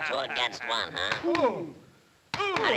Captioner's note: hand smacks